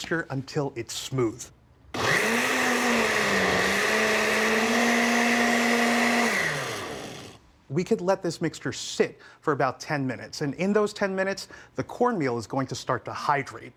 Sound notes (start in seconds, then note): 1.9 blender whirring; 6.6 blender stops